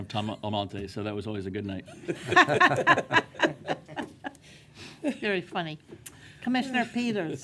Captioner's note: speaking auctioneer tone